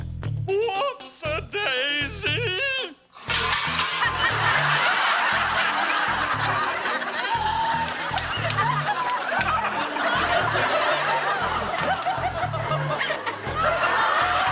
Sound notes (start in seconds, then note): 3.5 audience laughing; 3.5 students laughing